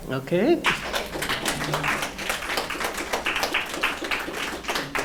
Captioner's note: audience applauds